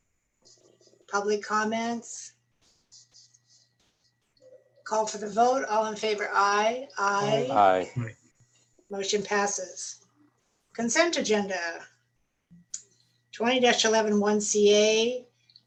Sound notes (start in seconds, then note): 6.9 applause